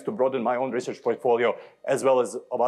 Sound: none

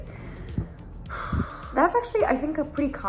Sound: sigh

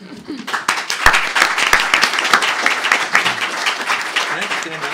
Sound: applause

